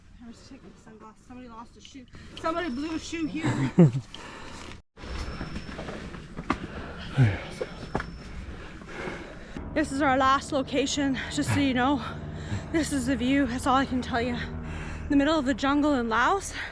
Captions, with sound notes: I was checking sunglasses. Somebody lost a shoe. Somebody blew a shoe here. -[laughs] [panting] -This is our last location, just so you know. -[panting] -This is the view. That's all I can tell you. In the middle of the jungle in Laos-